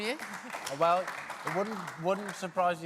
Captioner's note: applause